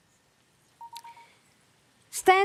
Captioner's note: beeping